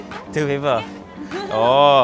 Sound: speaking in Japanese

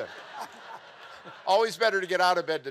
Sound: mel and audience laughing

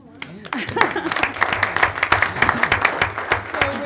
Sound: applauding

